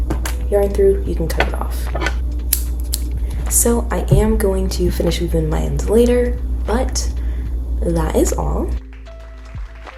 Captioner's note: scissors cut